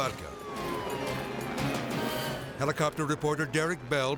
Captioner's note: helicopter whirring; siren wailing